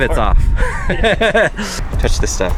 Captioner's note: laughs